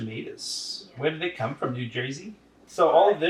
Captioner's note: in an accent